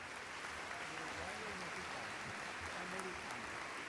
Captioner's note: audience applauds